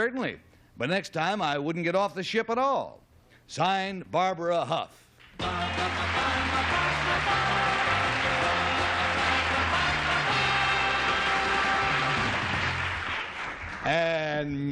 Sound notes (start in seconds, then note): 6.0 applause; 8.8 theme music